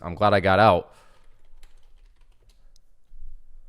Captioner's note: typing